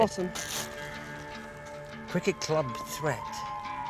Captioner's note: plastic bag rustling